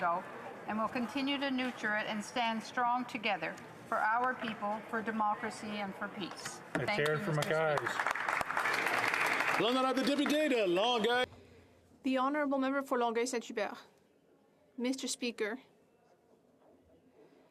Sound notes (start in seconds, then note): 11.0 applause